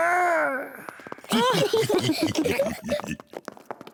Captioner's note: all giggle